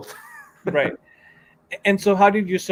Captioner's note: chuckles